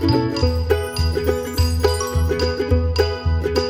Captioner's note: sparkle noise